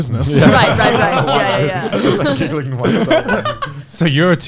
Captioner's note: laughs